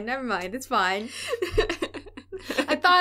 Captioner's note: laughter